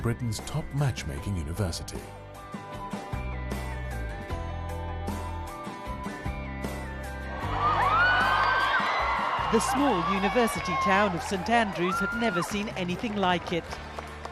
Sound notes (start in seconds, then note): 2.4 upbeat music; 7.2 crowd cheering; 9.4 voiceover